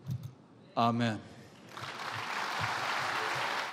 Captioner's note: applause